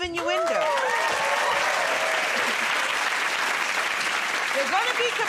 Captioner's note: cheers and applause